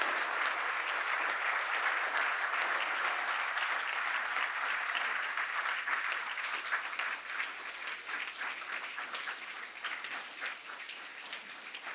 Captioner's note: applause